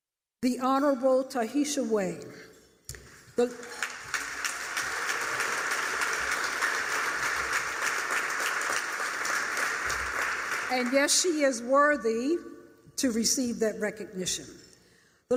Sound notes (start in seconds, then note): 3.4 applause